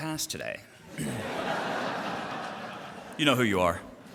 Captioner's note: audience laughter